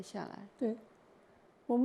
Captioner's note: Mandarin